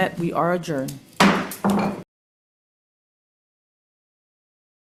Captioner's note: gavel taps